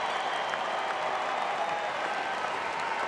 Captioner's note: applause